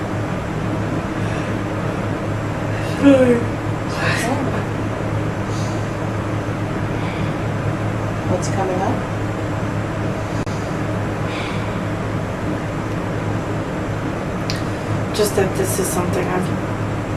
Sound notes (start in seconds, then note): 2.8 yawns